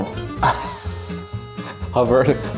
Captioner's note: laughs